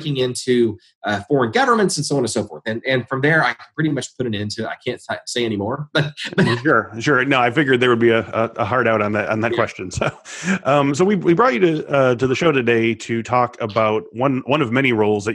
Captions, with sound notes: into foreign governments and so on and so forth. And from there I pretty much put an end to ... I can't say anymore (laughs). Sure, no, I figured there would be a hard out on that question. So we brought you to the show today to talk about one of many roles